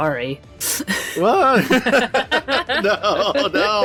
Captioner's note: laughter